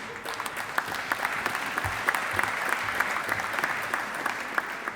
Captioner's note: audience applauding